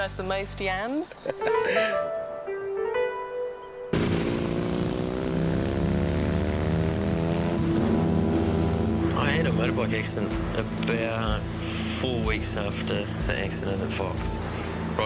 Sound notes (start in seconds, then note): 4.7 motorbike engine roars